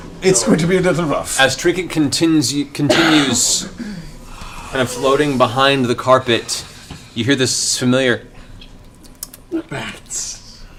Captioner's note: bat squeaks